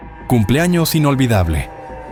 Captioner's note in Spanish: none